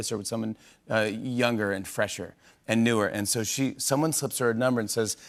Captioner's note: none